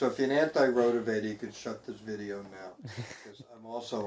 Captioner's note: chuckling